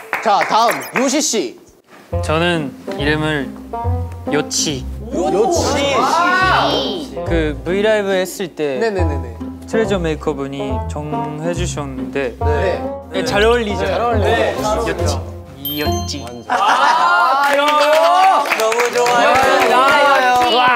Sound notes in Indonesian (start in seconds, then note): 17.4 tepuk tangan